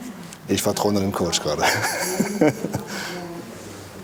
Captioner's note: laughs